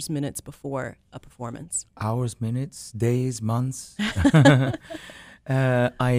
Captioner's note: laughter